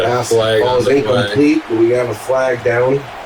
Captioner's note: crowd Noises